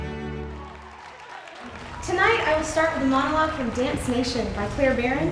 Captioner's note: audience cheering